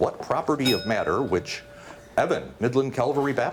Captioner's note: bell dings